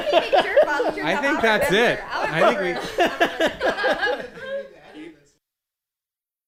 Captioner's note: laughter continues